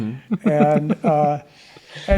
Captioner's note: general laughter